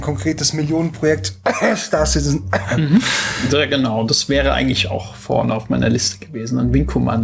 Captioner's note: cough